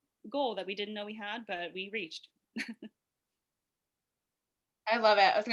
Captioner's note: laughs